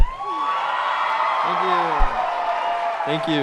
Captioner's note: crowd cheering